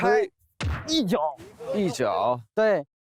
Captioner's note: kick